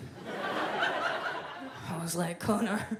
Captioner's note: audience laughs